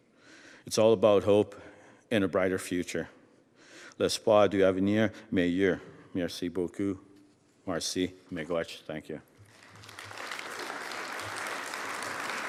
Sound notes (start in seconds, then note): 3.7 speaking French; 9.4 applause